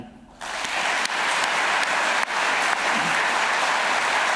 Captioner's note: audience applauding